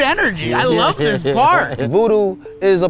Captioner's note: laughs